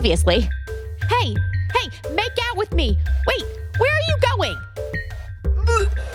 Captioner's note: off mic